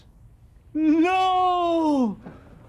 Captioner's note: wailing